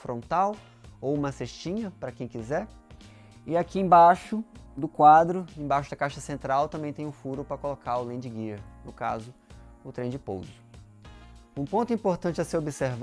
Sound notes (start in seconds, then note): 10.1 talking in Portuguese